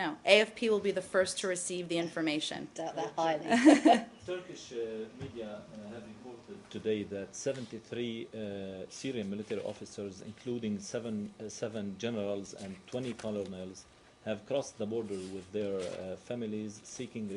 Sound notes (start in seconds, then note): 3.4 laughter